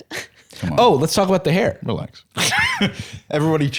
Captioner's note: laughs